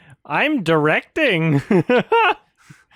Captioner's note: laughs